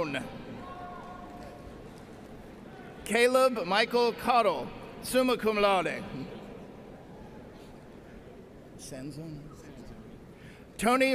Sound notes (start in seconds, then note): none